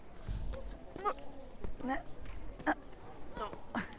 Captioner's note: makes silly noises walking upstairs